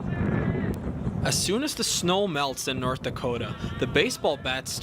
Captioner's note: voiceover